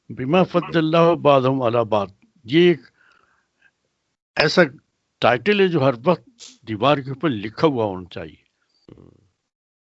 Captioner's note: recites Arabic